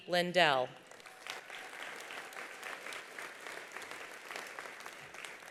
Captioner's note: attendees applauding